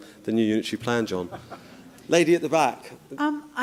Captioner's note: laughter